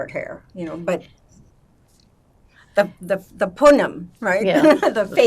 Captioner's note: yiddish